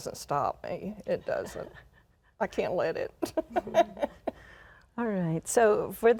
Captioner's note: chuckles